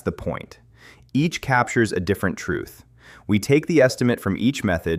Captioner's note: thoughtful